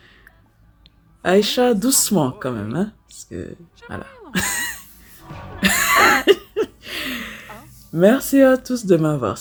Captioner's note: laughs